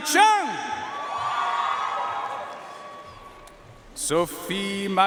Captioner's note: audience cheering and applauding